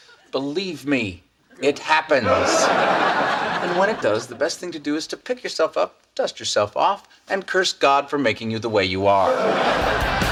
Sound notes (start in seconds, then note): 1.5 audience laughs; 9.2 audience laughs